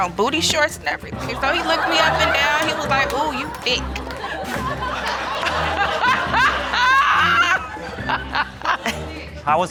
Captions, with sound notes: I had on booty shorts and everything. So he looked me up and down, -and he was like, "Ooh, you thick." -[audience laugh] [audience gasp and laugh]